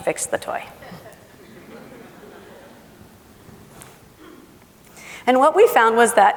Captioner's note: laughing